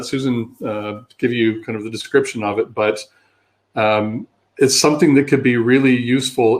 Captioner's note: erm